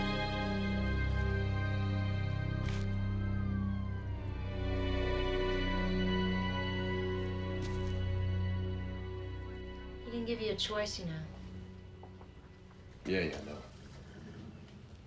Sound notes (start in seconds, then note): 2.4 sirens wailing